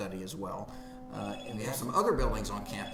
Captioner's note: phone ringing